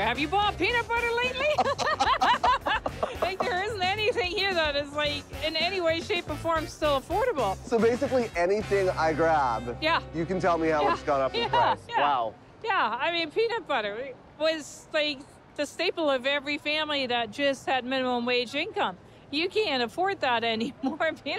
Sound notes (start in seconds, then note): 1.4 both laughing